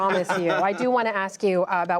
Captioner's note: laughter